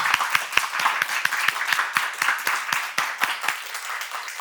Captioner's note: clapping